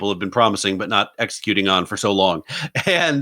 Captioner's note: laughs